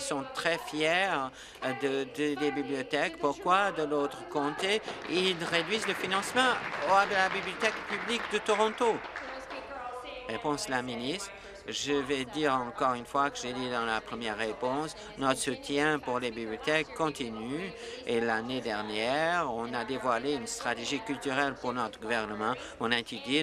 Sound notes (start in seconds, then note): 8.0 applause